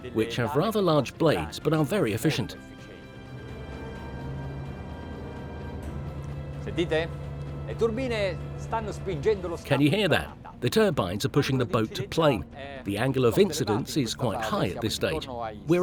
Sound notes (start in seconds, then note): 4.3 slow music; 7.5 speaking foreign language